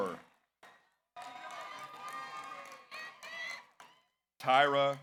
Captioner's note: audience applauds; audience cheers